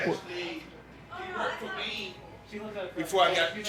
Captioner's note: simultaneous crowd chatter